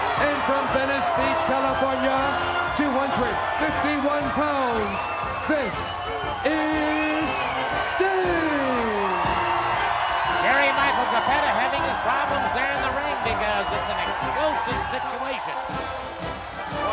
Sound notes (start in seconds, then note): 8.5 crowd cheers